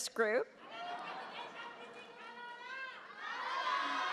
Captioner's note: audience cheers